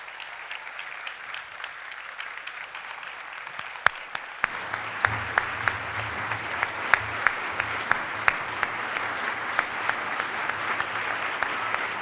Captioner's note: applause